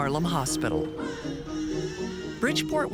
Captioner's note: baby crying